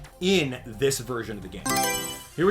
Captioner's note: Mario Selection Sound